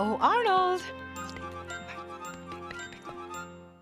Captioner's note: whispering